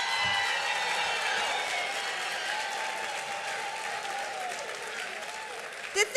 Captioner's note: cheers